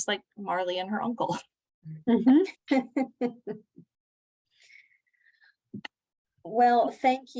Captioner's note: laughter